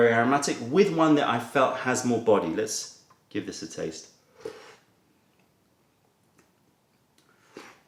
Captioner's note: sips tea